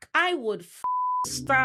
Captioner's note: beep